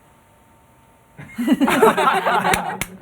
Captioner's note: laughter